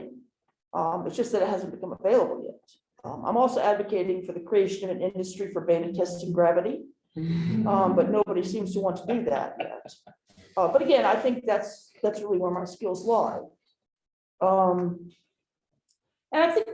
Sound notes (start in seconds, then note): 7.0 laughter